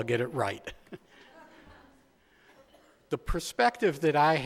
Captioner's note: chuckles